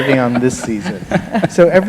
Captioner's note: laughter